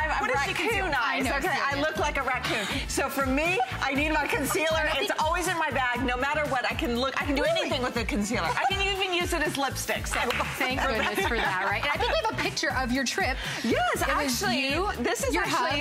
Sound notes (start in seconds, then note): 4.1 laughter; 10.2 laughter